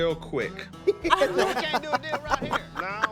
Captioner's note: group laughing